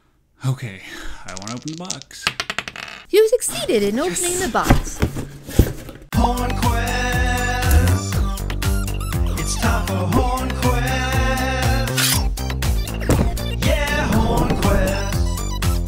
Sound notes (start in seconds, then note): 1.2 sounds of dice being shaken and thrown; 12.3 sound of sword being pulled from its sheath